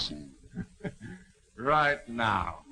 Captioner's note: laughing